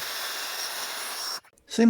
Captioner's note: hissing sound